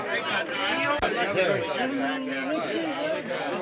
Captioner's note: chatter continues